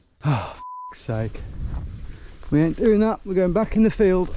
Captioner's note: beeps